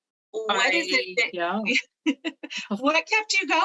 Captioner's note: laughs